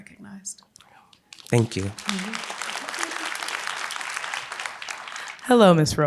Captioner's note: applause